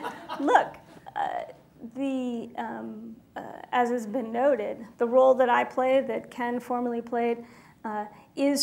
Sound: laughter

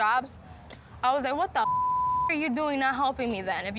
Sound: beep

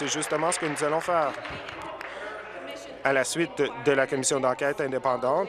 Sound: applause

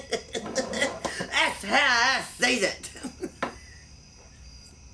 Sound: laughs

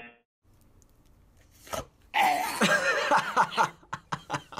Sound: buzzer; choking noises

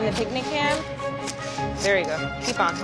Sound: meat sawing

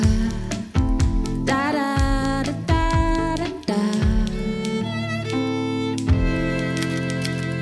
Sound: typewriter clacking; typewriter clacking

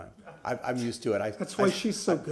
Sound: laughter

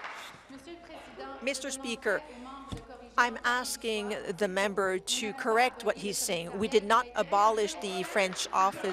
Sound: applause

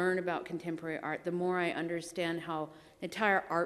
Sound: none

